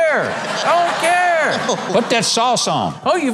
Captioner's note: audience laughs